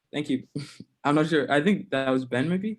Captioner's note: laughs